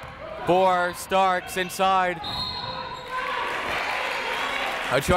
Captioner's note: whistle